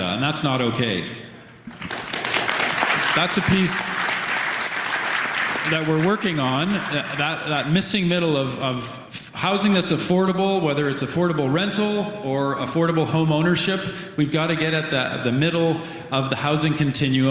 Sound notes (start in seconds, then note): 6.2 applause